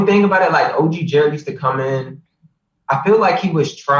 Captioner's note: laughs